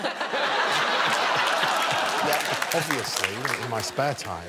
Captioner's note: laughter continues